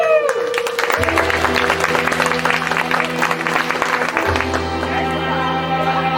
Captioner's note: applause